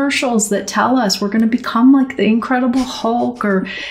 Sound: laughter

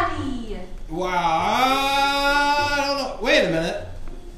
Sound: voiceover

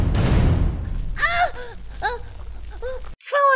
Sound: whimpers

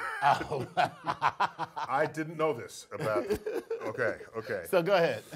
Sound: laugh

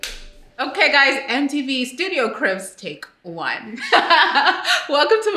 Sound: light snapping on; laughs joyfully

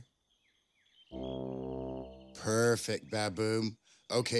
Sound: soft honking

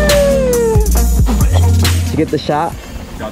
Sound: spitting

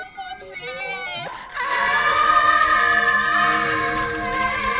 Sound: both screaming

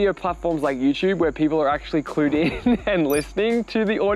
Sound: laughs

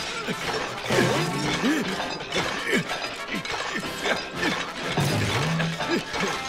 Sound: grunting

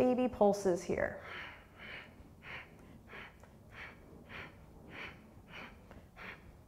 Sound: quick breaths

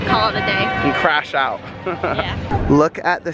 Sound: laughs

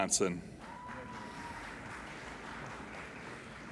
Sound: applauding

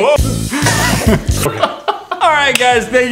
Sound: funky music; laughing

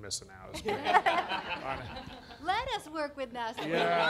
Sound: laughing

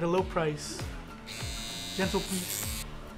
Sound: razor buzzes

